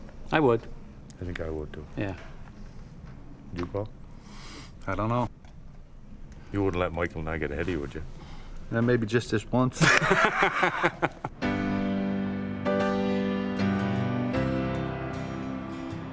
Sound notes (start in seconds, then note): 9.8 laughing